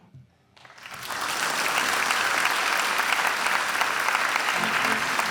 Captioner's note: audience applauding